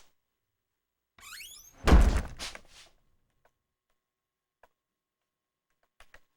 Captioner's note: door slams